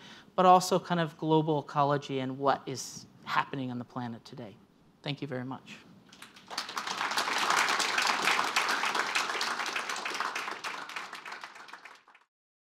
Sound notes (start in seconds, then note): 6.1 applause